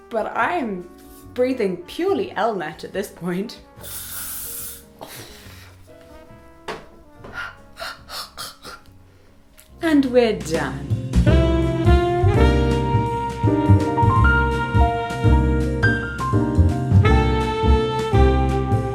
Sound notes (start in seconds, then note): 7.2 gagging